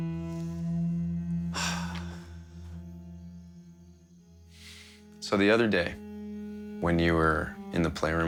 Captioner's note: sighs